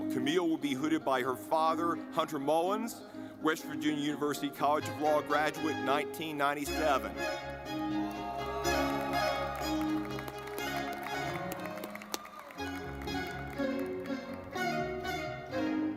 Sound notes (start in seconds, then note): 7.0 lively music; 7.9 audience clapping